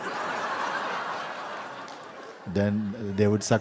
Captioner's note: laughter